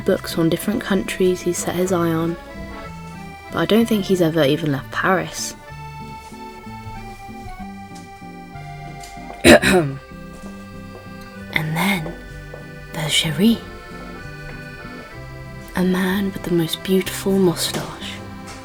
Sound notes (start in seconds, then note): 9.3 clears his throat